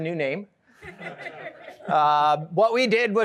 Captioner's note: laughter